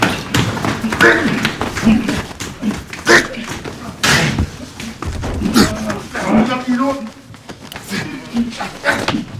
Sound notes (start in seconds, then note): 0.7 groaning